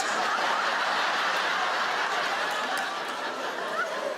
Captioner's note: audience laugh